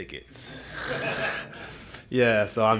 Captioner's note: laughter